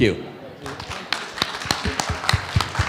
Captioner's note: applause